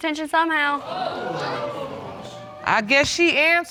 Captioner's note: audience exclaiming